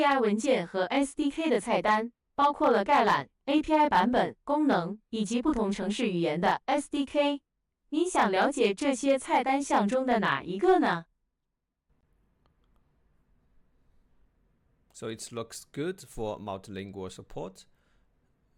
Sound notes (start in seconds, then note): 0.6 model speaks in Chinese